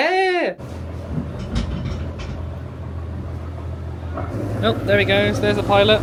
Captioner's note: motors chugging